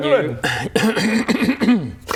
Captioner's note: coughcoughcough